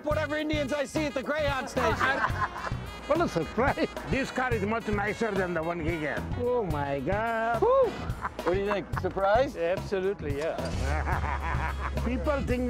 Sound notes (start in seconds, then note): 3.4 pat; 10.7 laughs